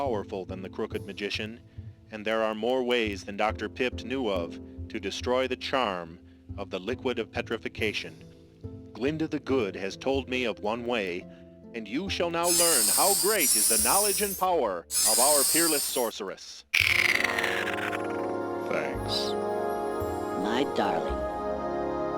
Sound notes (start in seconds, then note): 16.9 mystical tinkling